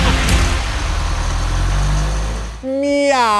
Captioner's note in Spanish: Coche pasando por el sonido